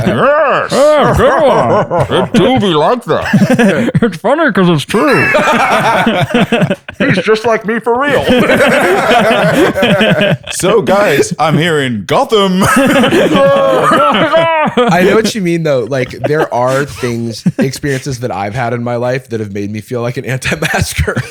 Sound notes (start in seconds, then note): 0.6 laughter; 13.2 muffled cheering